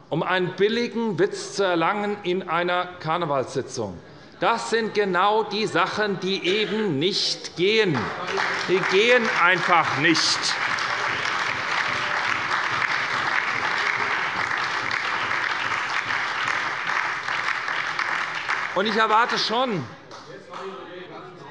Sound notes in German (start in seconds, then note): 8.0 Beifall bei der SPD und der LINKEN sowie bei Abgeordneten der FDP